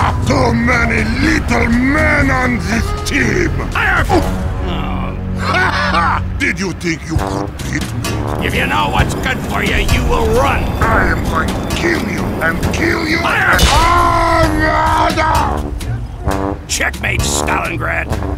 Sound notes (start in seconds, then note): 4.1 The IS-1 groans; 4.6 The M36 GMC groans; 13.6 The IS-1 screams